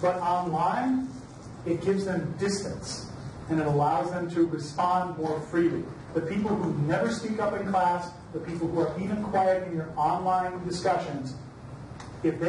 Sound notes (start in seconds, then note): none